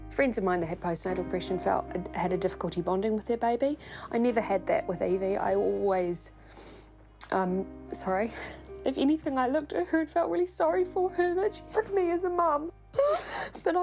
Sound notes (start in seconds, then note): 7.1 sniffles; 12.9 sobs